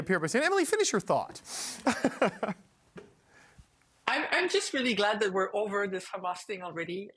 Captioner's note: laughter